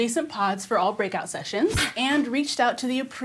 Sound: racket whooshes

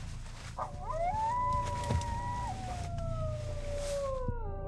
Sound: howling and barking continue; pulse sound fades in and out

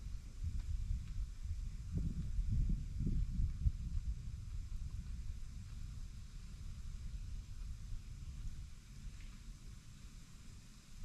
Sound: wind blowing

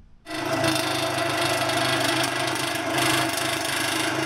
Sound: tool whirring

